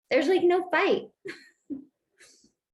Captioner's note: laughter